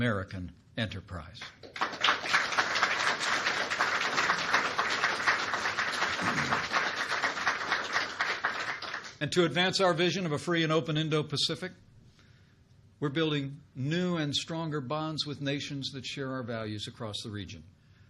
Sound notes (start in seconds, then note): 1.4 applause